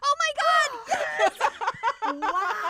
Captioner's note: laughter